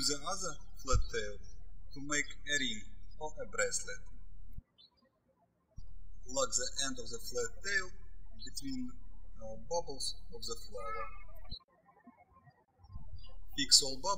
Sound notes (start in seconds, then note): 0.0 birds chirping; 11.7 birds chirping